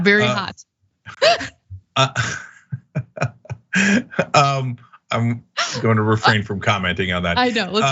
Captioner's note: laugh